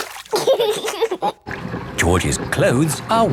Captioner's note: giggling